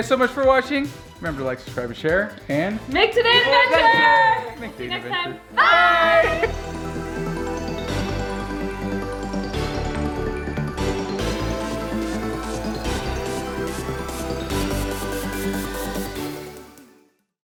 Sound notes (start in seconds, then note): 3.0 in Unison